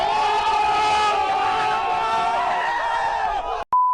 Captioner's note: crowd cheers